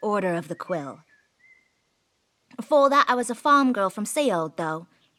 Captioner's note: switches to Cockney